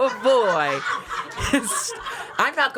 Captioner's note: crew laughs